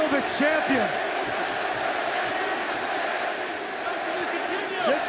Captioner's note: crowd cheering